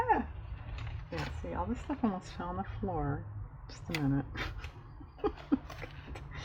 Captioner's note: laughs